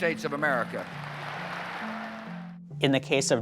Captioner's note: audience applauds and cheers